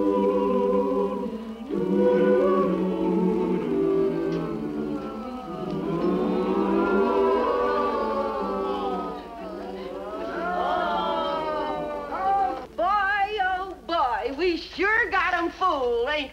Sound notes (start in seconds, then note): 3.0 prisoners groan; 6.8 choir harmonizes